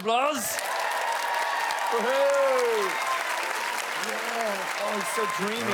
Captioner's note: cheering and Applaus